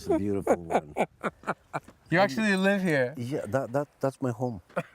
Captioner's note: laughs